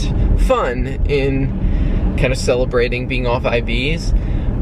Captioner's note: none